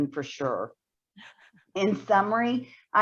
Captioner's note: chuckles